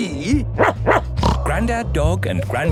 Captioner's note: barking, snorting